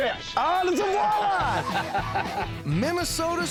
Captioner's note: laughing